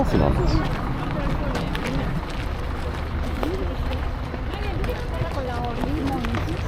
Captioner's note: people chattering